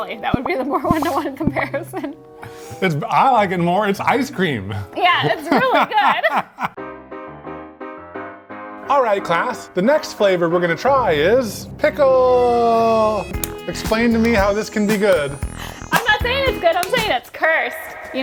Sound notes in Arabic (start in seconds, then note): 5.2 يضحك; 6.7 موسيقى جاز متفائلة